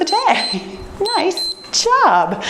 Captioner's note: timer beeps